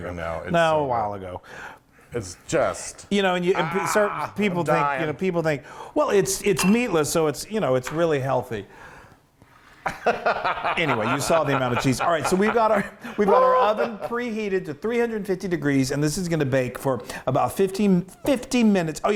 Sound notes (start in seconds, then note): 9.8 laugh